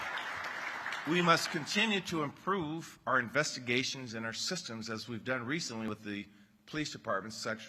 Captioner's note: applause